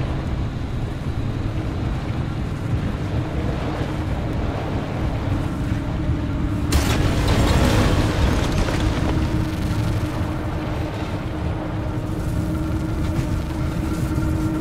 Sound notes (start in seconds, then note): 6.7 loud crashing; 9.5 car engine running; 9.5 eerie music